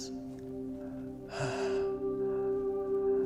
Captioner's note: gasps